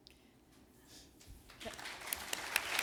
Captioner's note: applause